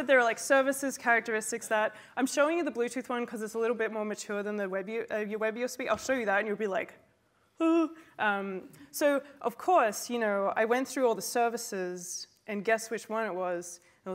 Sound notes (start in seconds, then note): 7.3 fearful gasp